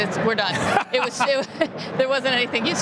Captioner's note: laughter